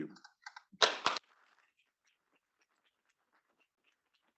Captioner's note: students clapping